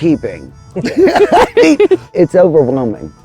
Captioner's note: all laughing